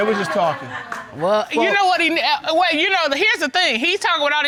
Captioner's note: audience laughs; stammers